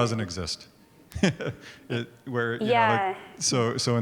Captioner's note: laughs